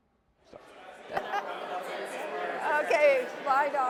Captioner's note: chatter